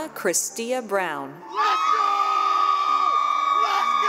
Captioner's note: cheering